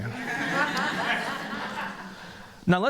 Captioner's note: laughter